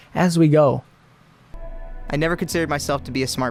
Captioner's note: male Voice